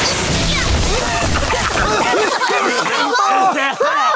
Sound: coughing

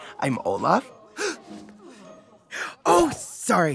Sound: gasps

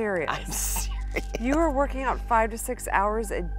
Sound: laughing

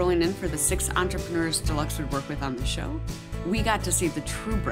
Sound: none

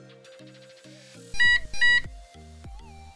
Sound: beep

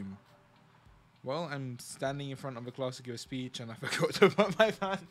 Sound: laughs

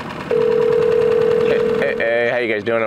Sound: dial tone ringing

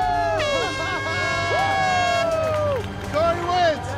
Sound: cheers; horn blares; laughs

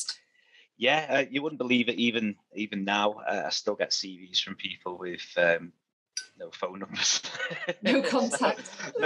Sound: laughs

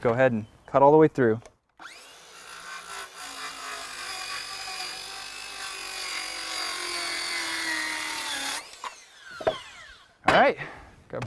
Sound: saw whining, thud as wood drops onto wood below, no additional audio

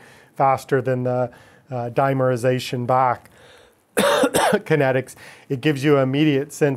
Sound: coughing

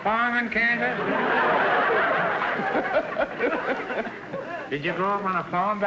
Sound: audience laughter

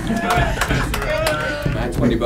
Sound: applause

